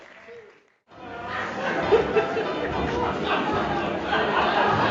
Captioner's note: audience laughs